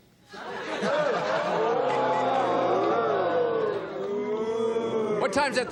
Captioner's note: audience ooh-ing